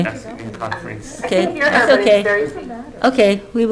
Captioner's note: overlapping chatter